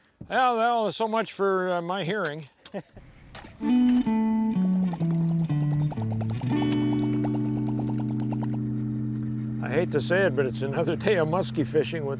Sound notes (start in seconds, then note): 2.7 laughs; 3.2 plug burbling; 3.5 gentle guitar music